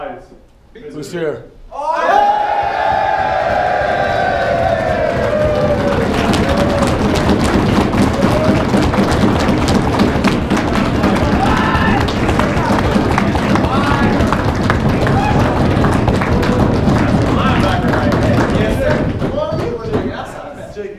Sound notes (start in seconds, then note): 1.9 cheering